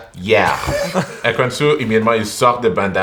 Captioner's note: laughter